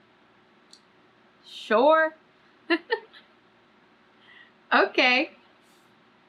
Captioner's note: laughs